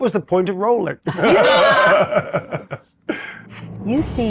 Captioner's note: chuckles